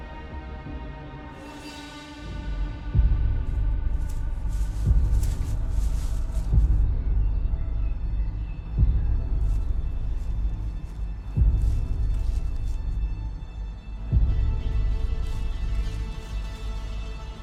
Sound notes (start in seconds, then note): 0.2 slow dramatic music continues; 3.7 slow music; 7.6 bird chirping; 13.9 slow music continues